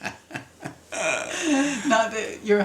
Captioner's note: both laughs